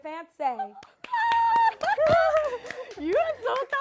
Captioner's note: cheers